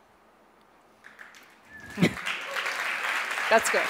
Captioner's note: audience applauds